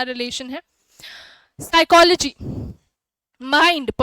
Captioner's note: sound of deep breathing